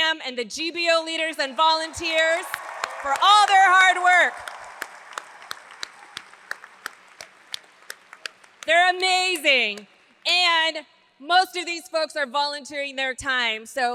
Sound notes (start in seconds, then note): 4.5 audience applauds; 4.5 hands clapping